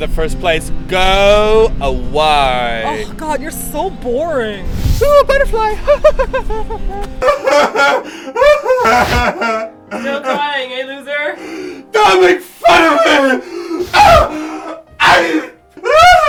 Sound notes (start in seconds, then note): 7.5 emotional breakdown continues; 13.7 incomprehensible scream